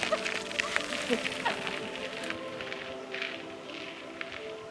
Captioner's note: both laughing